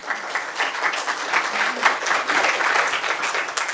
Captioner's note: applause